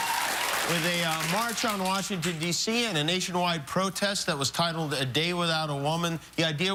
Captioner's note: cheers and applause